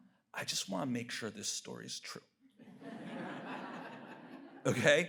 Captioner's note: audience laughs